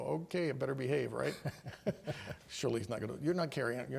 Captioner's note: laughter